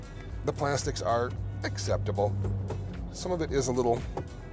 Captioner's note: tapping plastic